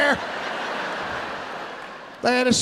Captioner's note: audience laughing